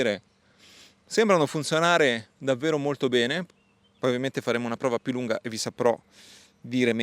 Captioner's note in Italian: sbuffare